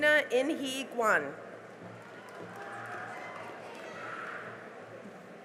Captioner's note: cheering and applause